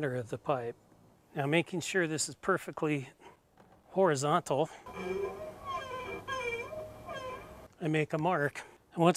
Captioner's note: Sharpie squeaking sound